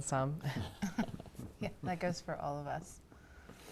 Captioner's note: chuckling